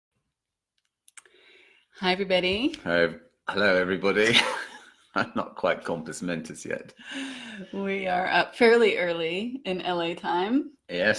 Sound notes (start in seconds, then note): 4.2 both laughing